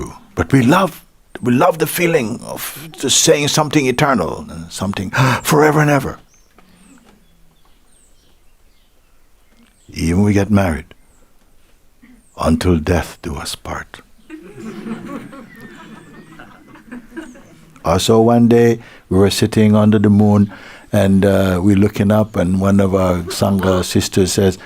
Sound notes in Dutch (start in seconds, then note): 14.2 gelach